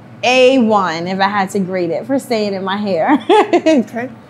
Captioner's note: laughs